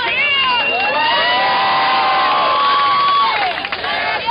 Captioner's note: cheering and applause